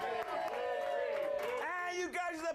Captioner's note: audience cheering